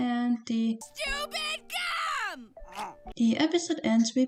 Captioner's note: bee screaming